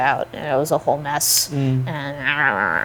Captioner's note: grumbling